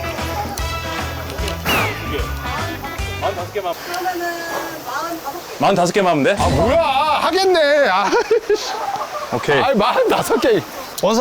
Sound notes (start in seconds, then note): 1.6 awkwardly blowing dust